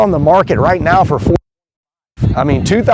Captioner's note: wind drowns out speaker